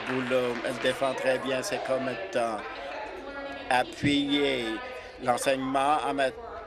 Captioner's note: applause